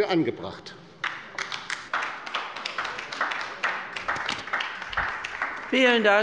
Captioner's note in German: Beifall bei der LINKEN